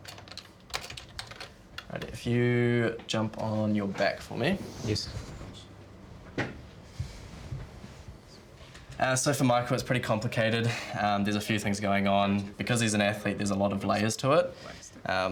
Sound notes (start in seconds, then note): 0.0 keys tap; 10.9 sighs